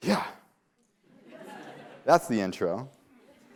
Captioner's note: laughter